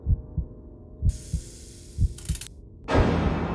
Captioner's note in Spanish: silbido de serpiente